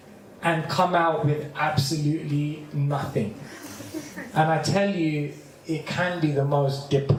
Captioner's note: laughter